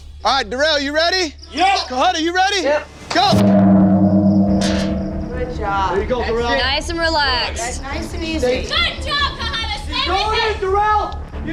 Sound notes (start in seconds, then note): 2.9 gong rings